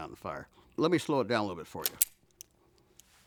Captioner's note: gun clicks